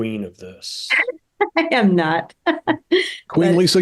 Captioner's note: chuckles